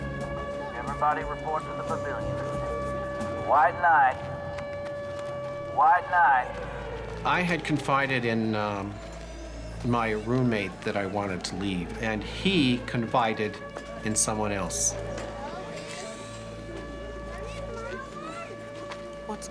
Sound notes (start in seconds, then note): 7.6 voiceover; 15.5 people and children chattering